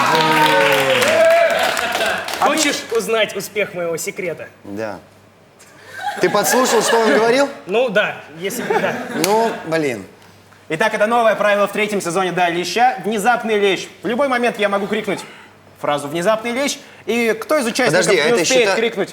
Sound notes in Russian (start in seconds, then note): 0.0 Аплодисменты; 5.7 Смех